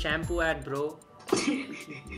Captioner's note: snickers